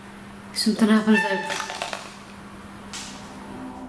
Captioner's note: horn